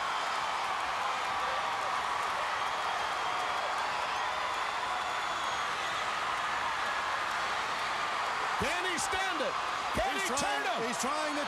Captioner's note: crowd cheering